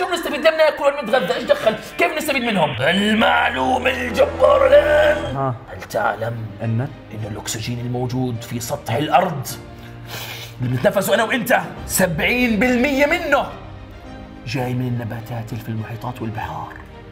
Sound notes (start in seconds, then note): 2.8 in a deep voice; 9.8 inhales